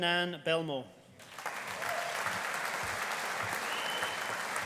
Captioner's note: audience applauding